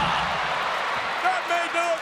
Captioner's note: audience cheers